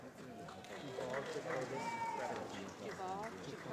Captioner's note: applause